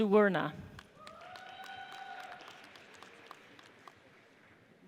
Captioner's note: audience cheers